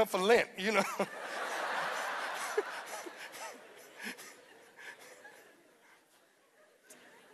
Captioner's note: laughter